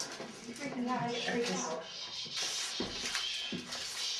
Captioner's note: murmuring